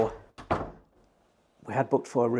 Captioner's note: door clunks